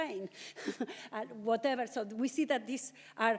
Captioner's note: chuckles